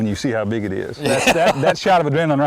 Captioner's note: laughter